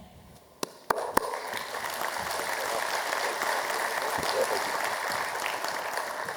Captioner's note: applause